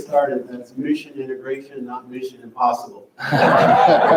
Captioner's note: crowd laughs